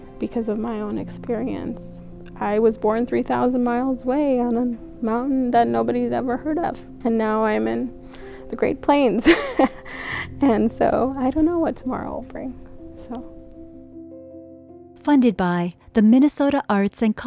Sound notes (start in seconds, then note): 9.2 laughs; 13.6 gentle music continues